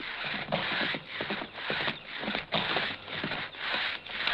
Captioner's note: saw blade scraping